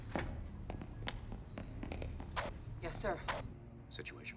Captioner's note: footsteps tapping